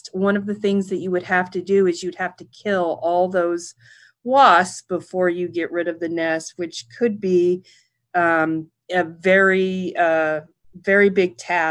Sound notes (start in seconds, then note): none